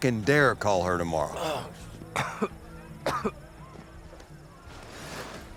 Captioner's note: coughing